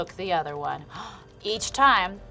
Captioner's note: gasps